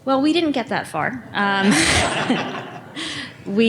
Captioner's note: laughter